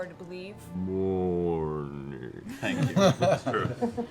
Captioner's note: Ent voice